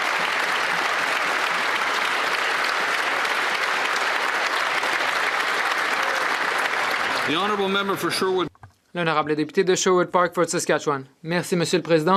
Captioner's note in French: voix de l'interprète